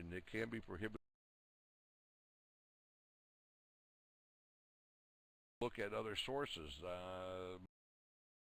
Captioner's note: audio drops